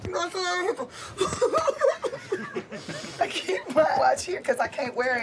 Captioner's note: giggling